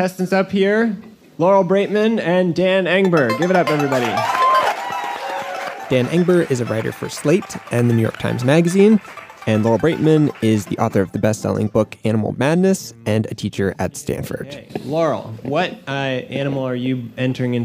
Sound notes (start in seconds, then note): 3.2 applause